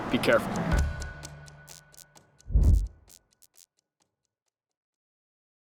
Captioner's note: neon buzzing